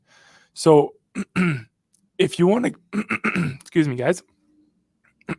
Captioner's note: clears throat